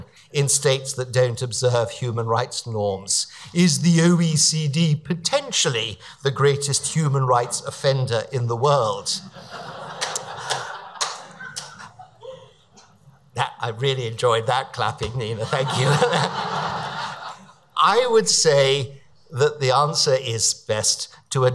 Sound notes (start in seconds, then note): 9.2 audience laughs; 15.3 audience laughs; 15.4 laughs